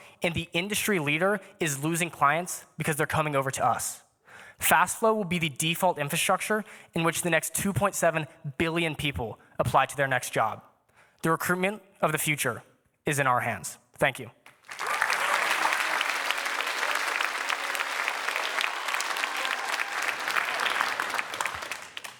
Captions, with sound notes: and the industry leader is losing clients because they're coming over to us fast. Fastflo will be the default infrastructure in which the next 2.7 billion people apply to their next job. The recruitment of the future is in our hands. Thank you. [Applause]